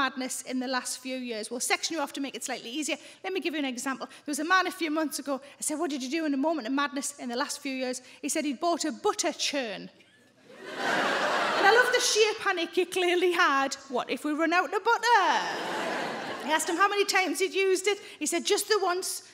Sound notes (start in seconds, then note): 10.5 audience laughs